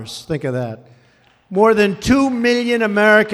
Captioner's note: applause